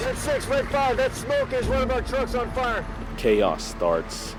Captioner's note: marine on radio